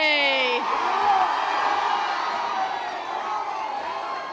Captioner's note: audience applause